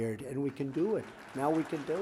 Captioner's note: applause